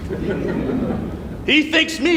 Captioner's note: laughter